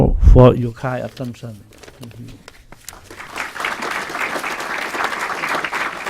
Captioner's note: clapping